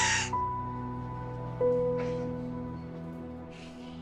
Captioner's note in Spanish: Sollozos